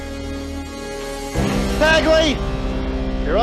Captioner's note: on TV